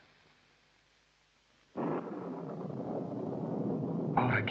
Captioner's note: thunder Rumbling